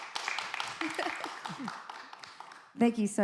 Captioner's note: audience clapping; chuckles